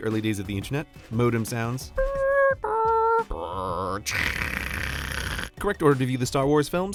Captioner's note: makes modem sounds